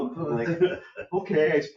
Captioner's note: people laughing